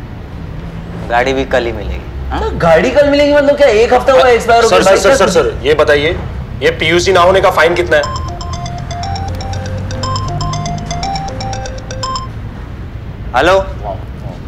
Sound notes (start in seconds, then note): 7.8 phone ringing